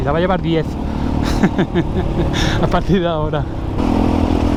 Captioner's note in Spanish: risas